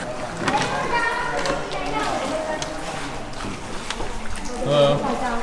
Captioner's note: speaking foreign language